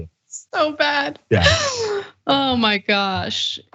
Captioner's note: laugh